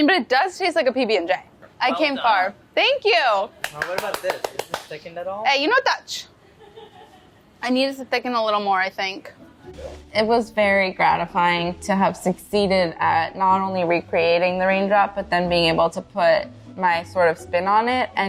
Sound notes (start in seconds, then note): 3.6 claps hands; 9.5 soothing music